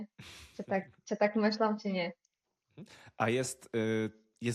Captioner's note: snort